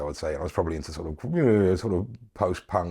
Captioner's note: groans